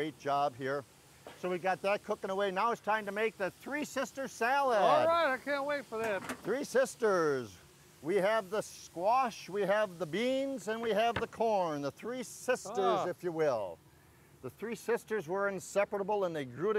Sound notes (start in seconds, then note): 2.3 fire sizzling